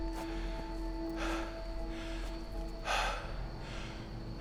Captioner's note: Sarah breathing heavily; Robert breathing heavily